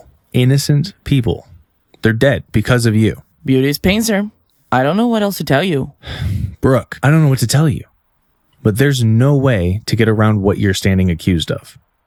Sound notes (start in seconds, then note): 6.0 sigh